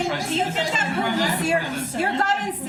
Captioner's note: laughter